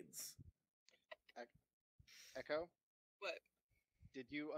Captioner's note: none